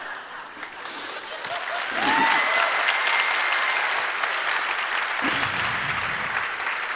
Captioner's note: laughter; applause and cheers